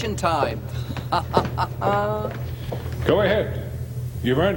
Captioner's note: laughing